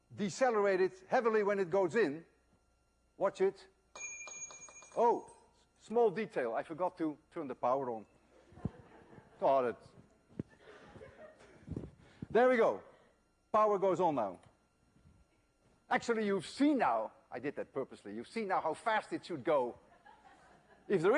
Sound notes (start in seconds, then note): 3.9 ring bounces on the table; 8.3 laughter